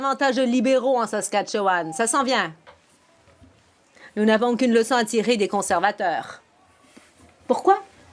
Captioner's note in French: voix de l'interprète